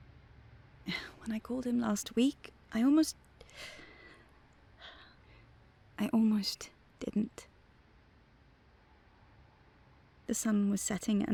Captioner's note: sighs